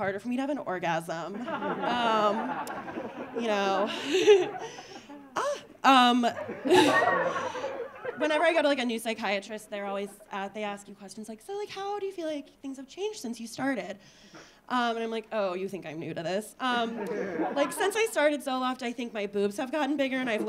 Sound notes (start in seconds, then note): 1.3 audience laughing; 16.8 audience laughing